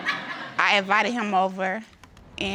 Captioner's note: audience laughs